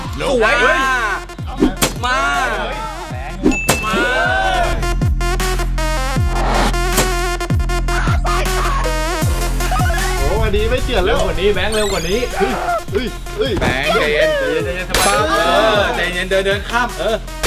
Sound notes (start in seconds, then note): 1.7 stab; 5.0 upbeat music playing; 14.8 hit; 15.0 cheering